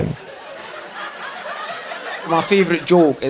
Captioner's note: audience laughing